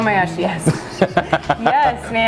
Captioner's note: laughing